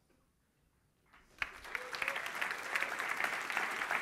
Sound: applause

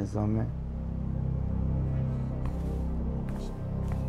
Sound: ominous sound

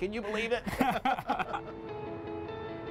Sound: laughter

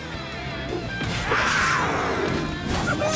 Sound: roaring

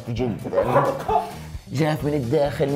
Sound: laughs

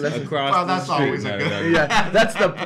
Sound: laughs

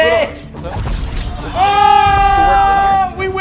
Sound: collective group "Oooooooh!!!" as becomes a badass

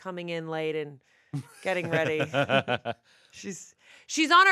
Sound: laughing

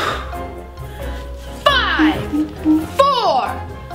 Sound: exhales loudly; beeping

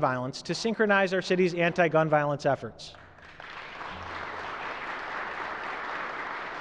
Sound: applause

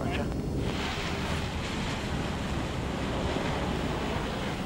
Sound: plane engine roaring

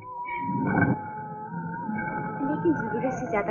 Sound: grinding

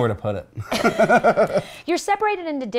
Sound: laughing

